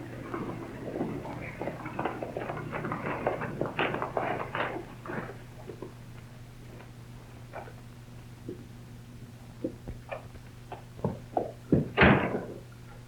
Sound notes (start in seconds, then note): 1.9 hooves clatter